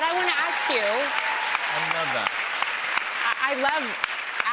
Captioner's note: cheers and applause